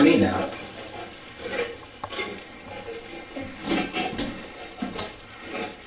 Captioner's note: static playback transmitting